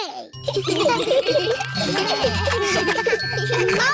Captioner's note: all giggling